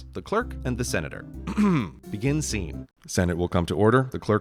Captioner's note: clears throat